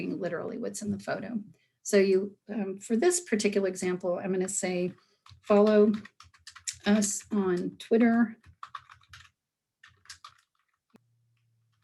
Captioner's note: sound of keyboard typing